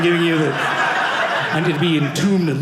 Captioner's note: audience laughing